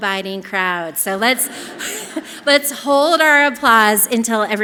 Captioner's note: chuckles